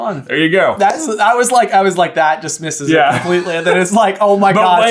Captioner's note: laughs